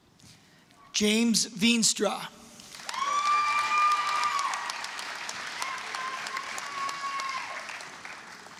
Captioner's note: applause, cheering